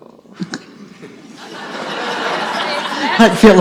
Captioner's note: audience laughs